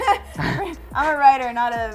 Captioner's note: both laugh